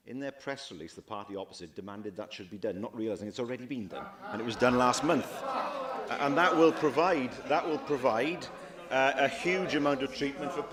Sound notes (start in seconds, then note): 6.8 laughter